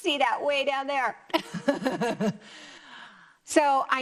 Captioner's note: laughs